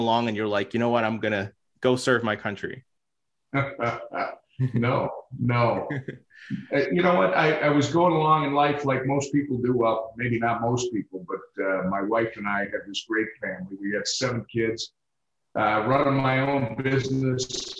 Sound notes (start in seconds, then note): 3.6 Tom chuckles; 5.8 chuckles